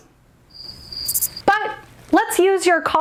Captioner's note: crickets chirping